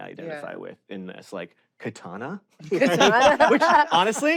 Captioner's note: laugh